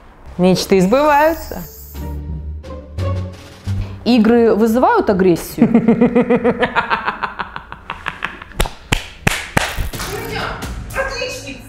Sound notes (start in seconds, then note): 5.6 laughs wickedly